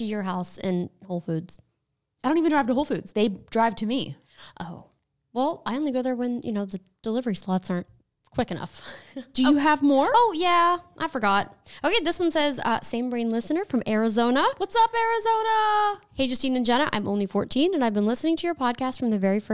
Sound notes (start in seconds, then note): 9.3 laughs